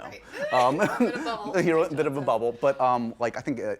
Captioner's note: laughs